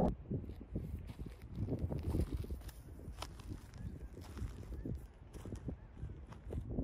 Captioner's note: wind blowing; footsteps pattering